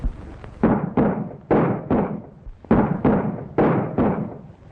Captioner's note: guns firing